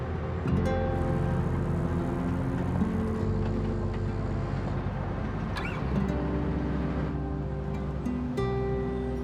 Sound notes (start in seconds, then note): 1.0 bicycle gears clicking; 4.7 engine rumbling